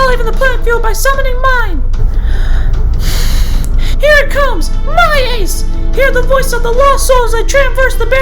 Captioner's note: breaths in and out